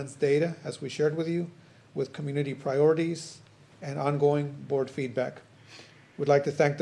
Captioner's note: snorts